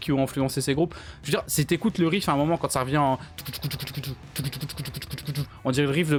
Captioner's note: mouth noise !!